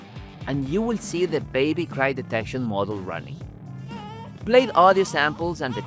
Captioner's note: baby crying noises